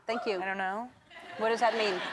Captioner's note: crowd members laughing